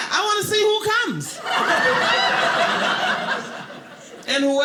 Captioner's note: audience laughing